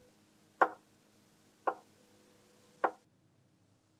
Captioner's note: thud, thud, thud